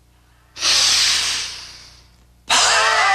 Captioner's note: breathing; sneezes